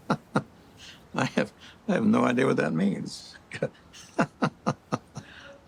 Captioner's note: Christopher laughs; laughing